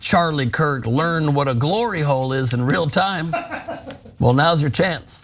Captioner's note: laugh